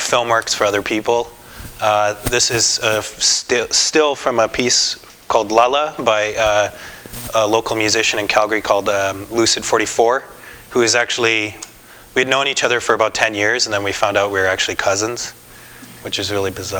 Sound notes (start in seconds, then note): none